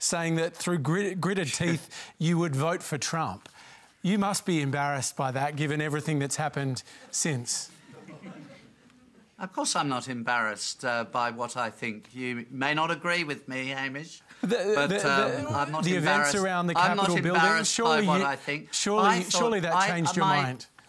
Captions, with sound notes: saying that through gritted teeth you would vote for Trump. You must be embarrassed by that, given everything that's happened since? (AUDIENCE TITTERS) Of course I'm not embarrassed by what I think. You may not agree with me, Hamish, but I'm not embarrassed... The events around the Capitol. ..by what I think. Surely that changed your mind?